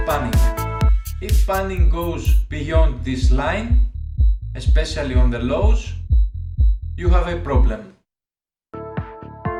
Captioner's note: low frequencies